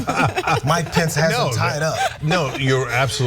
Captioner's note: laugh